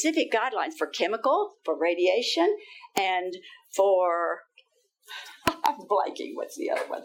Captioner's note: laughing